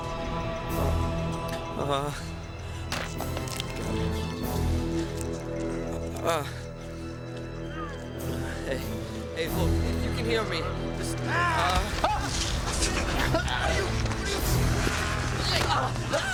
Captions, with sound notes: UHH-- UH-- HEY. HEY, LOOK, IF YOU CAN HEAR ME, JUST-- [ Yelling ] HEY ! OW !